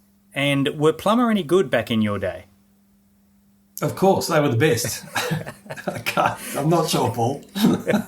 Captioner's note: both laughing